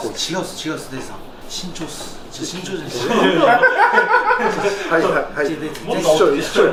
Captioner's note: laughs